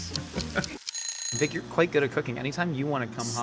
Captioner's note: alarm ringing